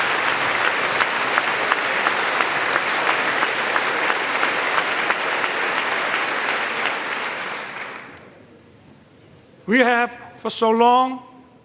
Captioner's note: applause